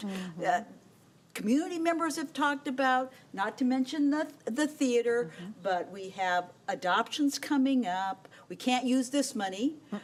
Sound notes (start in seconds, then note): none